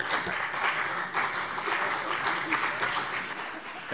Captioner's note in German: Beifall CDU und BÜNDNIS 90/DIE GRÜNEN